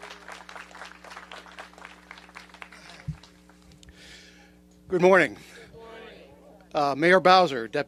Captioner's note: applause